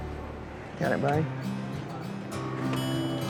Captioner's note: door opens